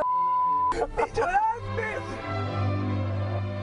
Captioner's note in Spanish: risas